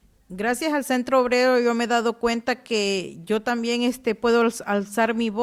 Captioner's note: speaking Spanish